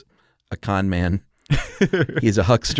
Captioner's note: laughs